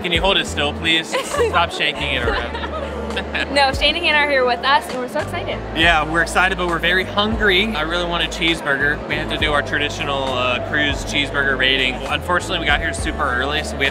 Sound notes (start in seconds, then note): 1.0 laugh